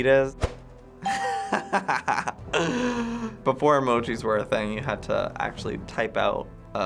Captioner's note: laughs